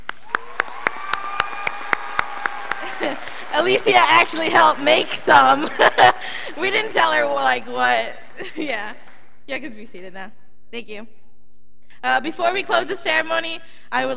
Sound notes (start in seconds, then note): 0.0 students applauding; 5.9 laughs